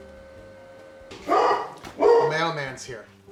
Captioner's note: printing motor; barking dog